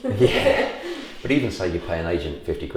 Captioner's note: laughs